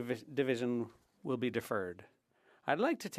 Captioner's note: speaking French